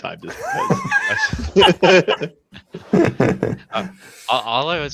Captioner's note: laughter